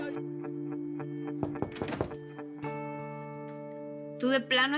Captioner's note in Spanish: Voz en la TV